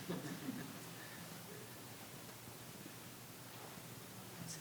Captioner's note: audience laughing